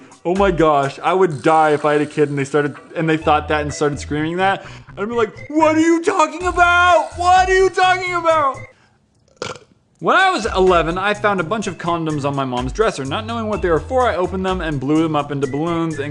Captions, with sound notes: Oh my gosh, I would die if I had a kid and they started-and they thought that and started screaming that. I'd be like "What are you talking about!! What are you talking about!!" *BURP* When I was eleven I found a bunch of condoms on mums dresser, not knowing what they were for I opened them and blew them up into balloons